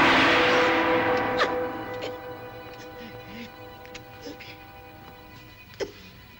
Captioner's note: suspenseful music; gasping sounds; soft tense music